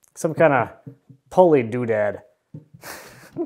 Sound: chuckles

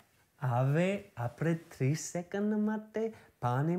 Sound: speaking Gujarati

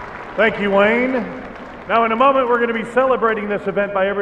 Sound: cheers and applause

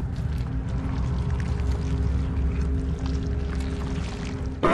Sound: squishing sounds

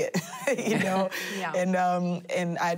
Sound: laughing

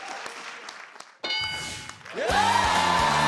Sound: dings; upbeat music

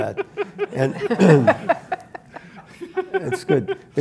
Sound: Jaron laughs

